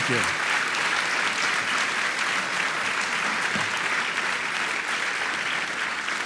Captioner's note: audience applauding